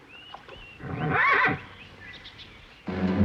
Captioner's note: neighing